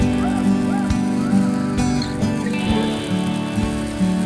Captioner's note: clattering